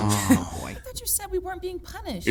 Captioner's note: groans in unison